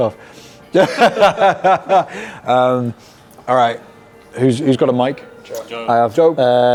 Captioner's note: laughs